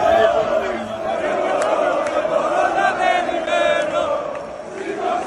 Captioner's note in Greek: χειροκρότημα